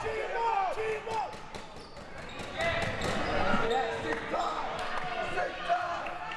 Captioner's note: audience chattering and yelling